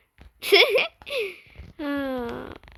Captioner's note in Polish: Śmiech